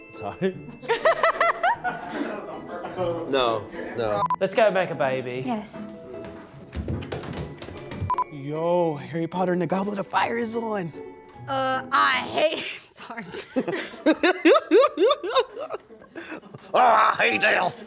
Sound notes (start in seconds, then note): 0.8 laughter; 4.2 beep beep; 6.2 baby making foot steps; 8.0 beep beep; 13.3 laughs; 16.5 imitating ridiculous voice